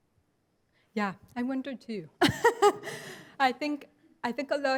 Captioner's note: laughs